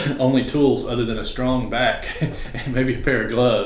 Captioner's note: laughs